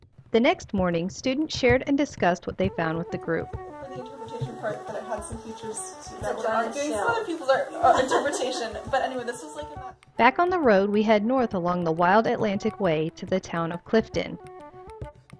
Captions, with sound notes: The next morning, students shared and discussed what they found with the group. [group chatter] Student: "...this was our interpretation..." Back on the road we head north along the Wild Atlantic Way to the town of Clifton.